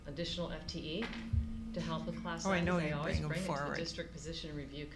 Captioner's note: members chattering